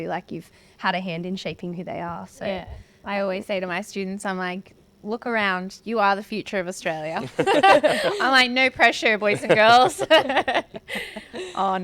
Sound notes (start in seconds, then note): 7.2 all laugh; 9.1 laughing; 9.1 laughs